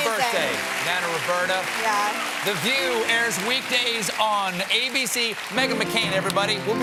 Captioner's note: applause